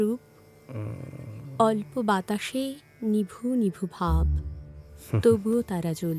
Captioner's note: mutters